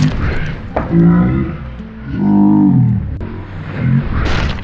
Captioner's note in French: voix distordues lentes